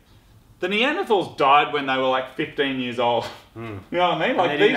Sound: snickers

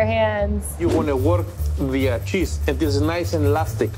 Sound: air whooshing

